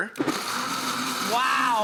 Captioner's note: blender whirls